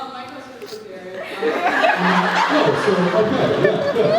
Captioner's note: laughs